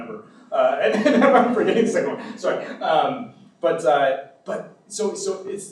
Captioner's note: laughs